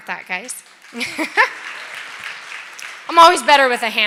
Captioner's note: applause